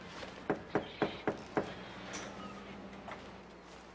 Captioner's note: knocking